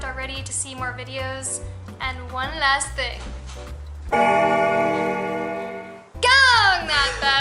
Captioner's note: bell Ringing